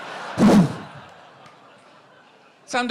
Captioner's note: makes exploding sound